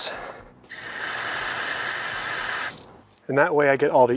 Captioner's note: water hissing